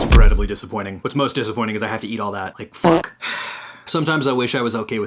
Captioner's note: sigh